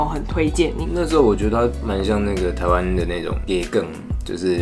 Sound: Taiwanese

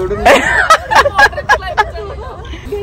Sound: laughing

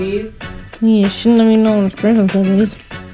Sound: mocking

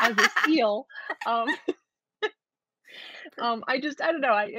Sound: both laughing

